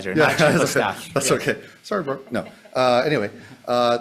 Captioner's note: laughs